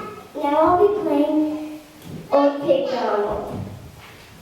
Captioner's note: audio distorts